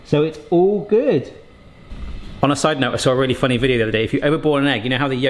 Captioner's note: none